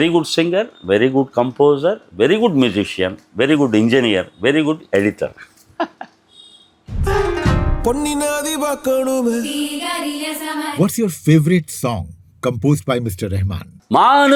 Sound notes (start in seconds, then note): 5.4 laughs